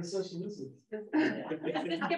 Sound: laughter

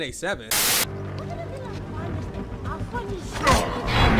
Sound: static

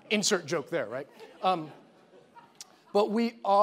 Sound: audience chuckling

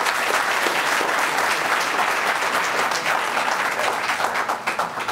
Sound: applause

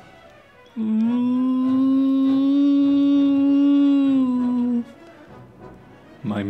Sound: grunt

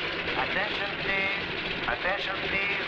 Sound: man On Loudspeaker

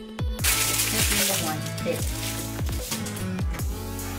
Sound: crinkling

